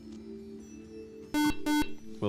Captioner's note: beep